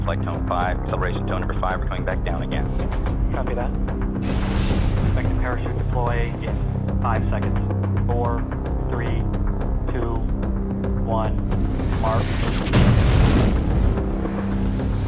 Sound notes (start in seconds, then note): 6.1 rocket roaring; 14.1 loud bang